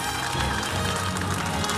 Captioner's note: cheers and applause